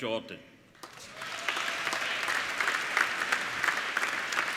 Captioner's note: applauding